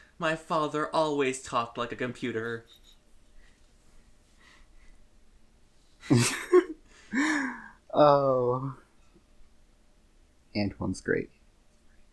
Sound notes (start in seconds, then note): 2.6 quiet snickering; 6.0 laughter